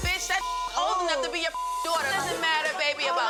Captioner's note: beep